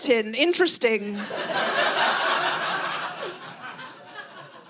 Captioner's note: audience laughing